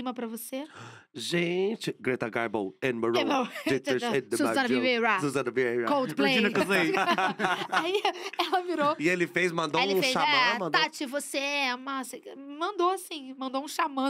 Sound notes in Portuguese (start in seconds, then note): 3.8 cantando; 5.4 ambos cantarolam; 6.3 risos; 6.5 canta